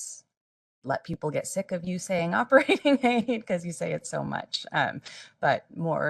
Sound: laughing

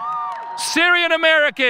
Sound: audience cheering

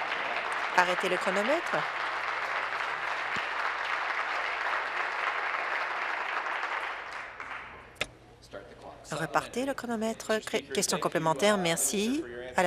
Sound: applause

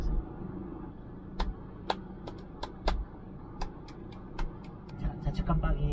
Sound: clapping to feel less nervous

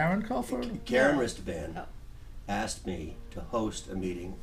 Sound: voiceover

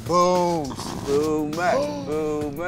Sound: gasping

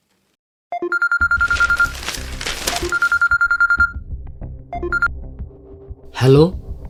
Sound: phone calls

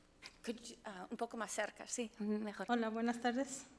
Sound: speaks foreign language; board member speaks foreign language; speaks foreign language

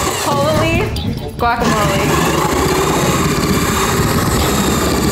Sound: saw whirring

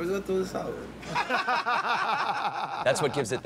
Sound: laughter

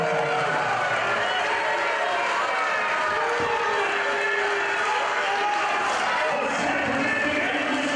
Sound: applause

